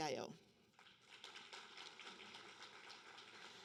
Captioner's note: applause